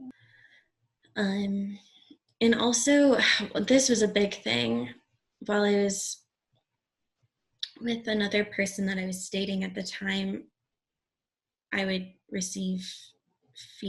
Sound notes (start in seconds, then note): 3.3 sighs